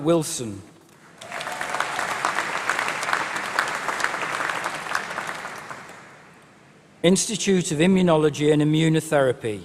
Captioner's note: applause